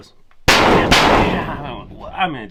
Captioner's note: metal clangs